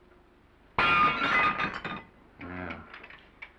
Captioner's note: plate shatters